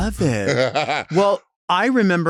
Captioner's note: Latrice chuckling